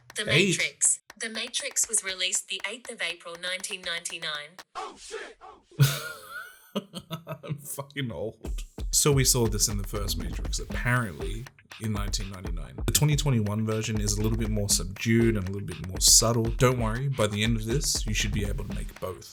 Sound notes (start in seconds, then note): 5.8 oh s%#t sound effect; 5.8 painful laughter